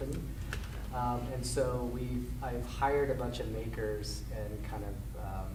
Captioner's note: none